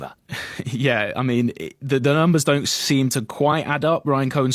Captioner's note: chuckles